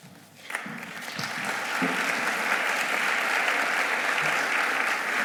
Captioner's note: audience applauding